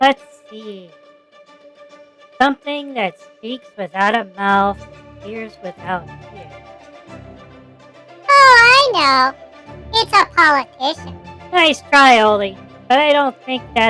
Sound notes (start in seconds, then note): 7.3 sarcastically; 10.9 laughs